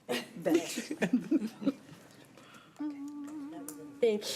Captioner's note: laughing